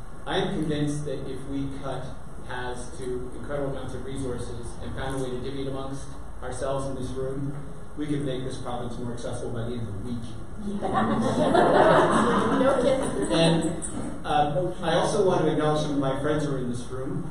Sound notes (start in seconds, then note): 10.8 audience laughter